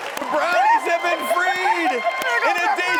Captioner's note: applause